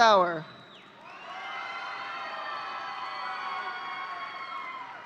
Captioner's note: audience cheering